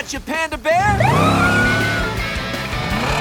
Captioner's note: siren wailing